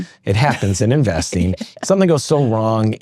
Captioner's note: laughs